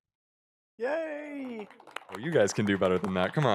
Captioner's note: applause